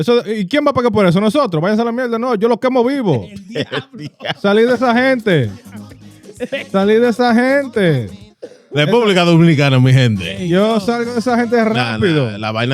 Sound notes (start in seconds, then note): 0.2 speaking Spanish; 5.4 speaking Spanish; 6.1 laughter; 10.9 speaking Spanish